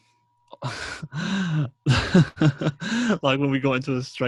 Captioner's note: laughs